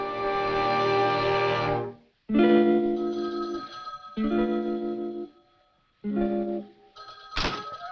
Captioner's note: uneasy music; phone rings